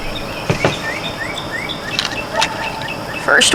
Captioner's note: very, VERY loud birds again!!